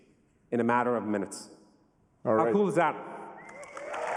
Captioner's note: cheers and applause